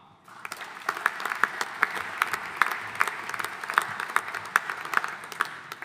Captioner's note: audience applauding